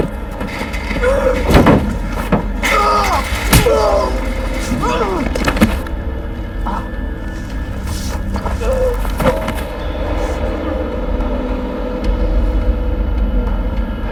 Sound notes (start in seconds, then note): 0.0 grunting; 5.3 groans; 6.4 grunting; 11.0 groaning